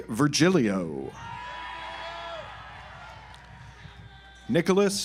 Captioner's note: audience applauds